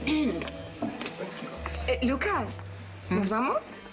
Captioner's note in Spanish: Carraspea